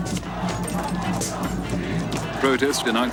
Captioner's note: crowd chanting